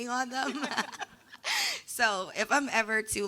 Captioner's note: laughing